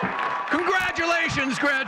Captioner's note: audience cheering and clapping